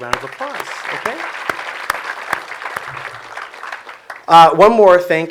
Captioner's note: audience applause